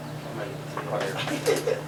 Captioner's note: laughter